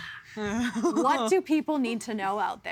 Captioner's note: sighing